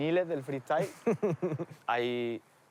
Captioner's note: laughs